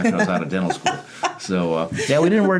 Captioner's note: laughing